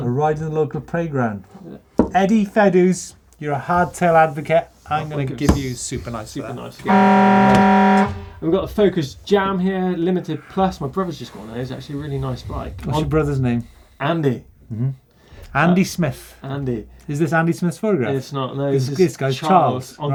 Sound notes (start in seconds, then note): 6.8 horn blaring